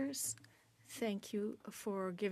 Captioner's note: speaking French